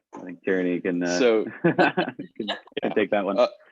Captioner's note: laughing